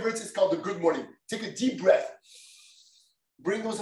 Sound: inhales

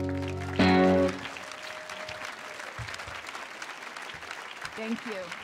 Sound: audience applauding and cheering

